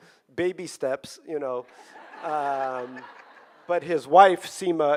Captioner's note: audience laughing